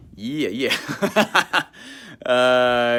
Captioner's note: laughs